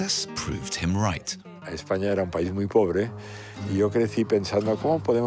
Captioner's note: speaking foreign language